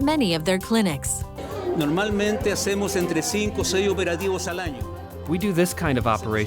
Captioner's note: speaking spanish